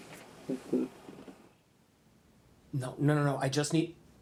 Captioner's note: Billy Ray chuckles